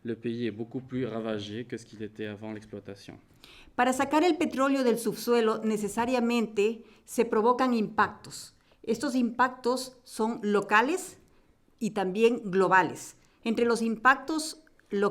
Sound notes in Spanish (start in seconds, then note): 3.8 Español